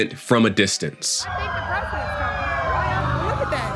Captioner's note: sirens wailing